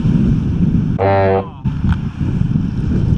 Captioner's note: swearing